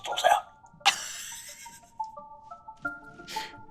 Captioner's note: laughs